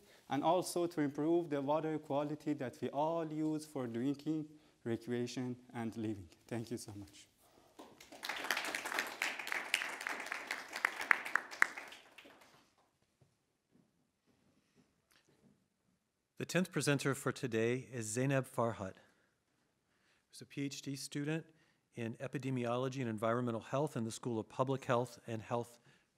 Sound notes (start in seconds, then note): 7.8 audience applauding